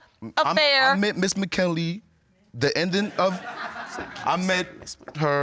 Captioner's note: audience laughs